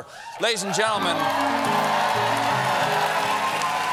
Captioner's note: cheers and applause